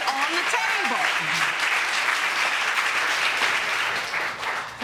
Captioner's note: audience applauding